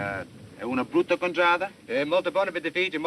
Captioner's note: speaking italian